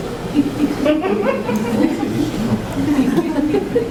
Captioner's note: audience chuckles